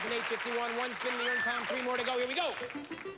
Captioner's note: squeals